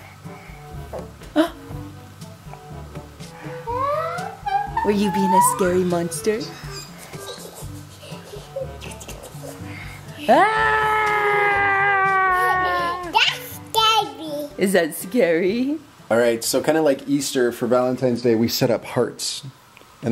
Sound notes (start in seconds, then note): 1.4 gasps; 3.7 girl gasps